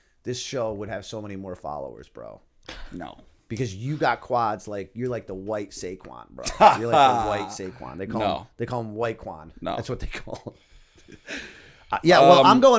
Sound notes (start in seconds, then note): 6.4 laughter; 11.0 chuckle